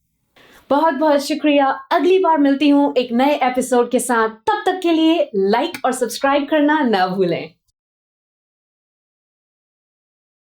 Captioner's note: speaking hindi